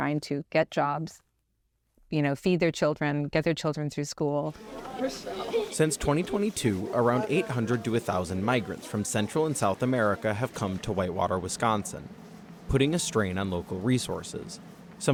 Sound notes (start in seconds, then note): 6.4 voice-over